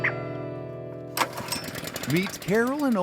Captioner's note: generator starts